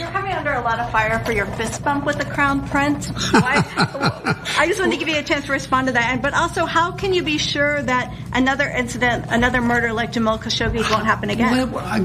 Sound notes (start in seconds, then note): 3.2 laugh